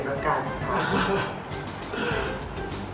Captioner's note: laughs